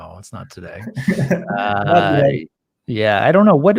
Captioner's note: chuckles